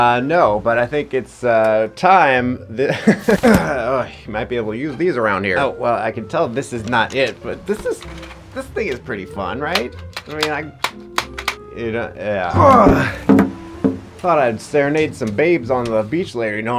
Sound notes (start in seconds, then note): 12.6 grunting